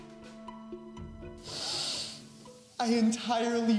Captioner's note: sniffling